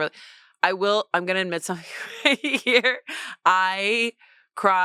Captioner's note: laughs